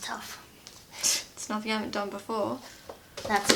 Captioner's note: scoffs